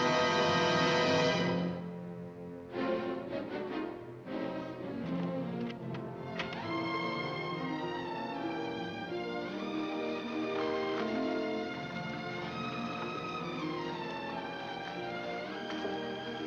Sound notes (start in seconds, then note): 5.5 door unlocking; 7.3 romantic music